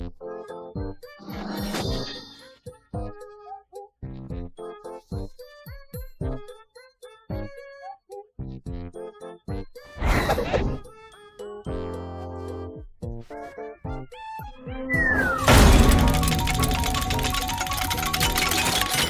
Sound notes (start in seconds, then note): 15.3 wheel dinging